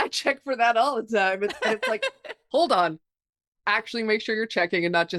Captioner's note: laughing